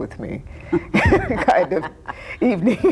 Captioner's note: both laughing